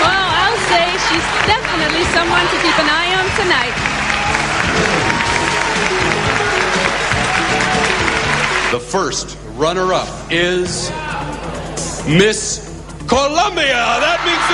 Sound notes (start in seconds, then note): 4.7 crowd cheering and applauding; 5.5 upbeat soul music